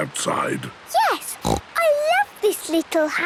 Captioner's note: snorts